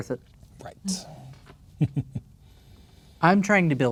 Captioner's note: chuckling